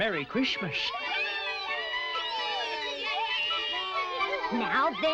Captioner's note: all cheering